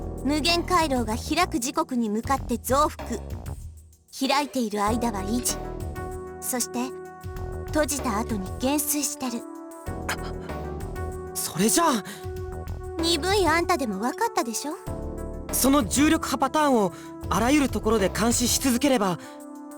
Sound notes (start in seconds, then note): 10.1 gasp